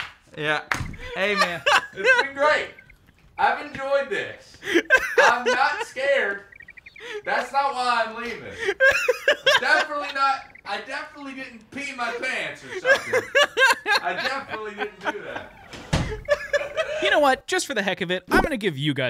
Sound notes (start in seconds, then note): 14.0 laughs